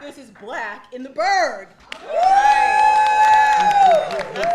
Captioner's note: cheering